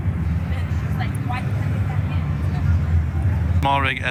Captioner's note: people chattering